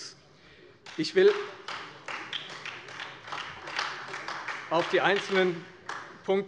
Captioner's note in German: Beifall Freie Demokraten, vereinzelt SPD und AfD